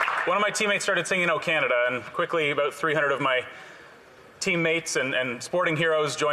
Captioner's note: some Applause